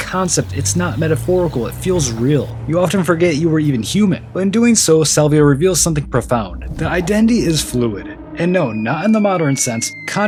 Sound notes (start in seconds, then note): none